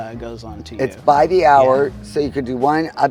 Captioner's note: pat